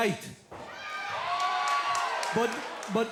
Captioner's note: crowd cheering